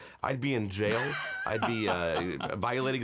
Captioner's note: laughs